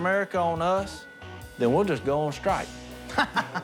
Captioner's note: laughs